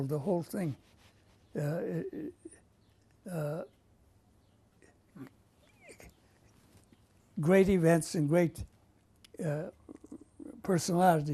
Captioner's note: pauses for 7 seconds